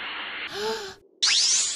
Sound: GOHAN gasps

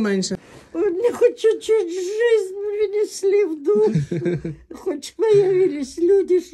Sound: laughter

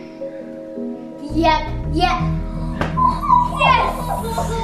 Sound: coos

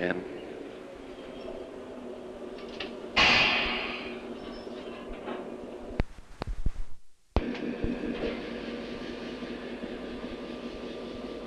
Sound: sound of the train moving

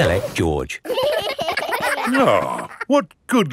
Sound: giggling

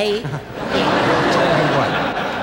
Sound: audience laughs

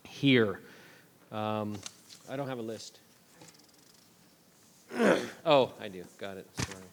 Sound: clears throat

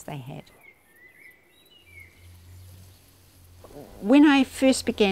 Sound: birdsong

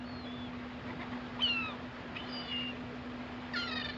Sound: seagulls cry

